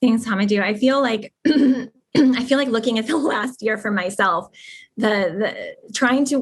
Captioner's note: cough